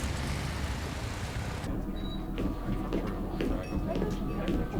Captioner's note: chattering